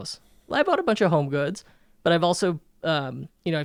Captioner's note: none